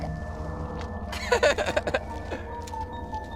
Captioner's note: laughs